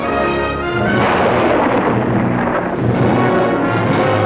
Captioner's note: thunder rumbling; soaring orchestral music